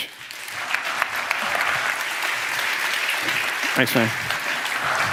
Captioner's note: applause